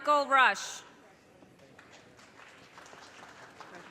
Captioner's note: audience cheers and applause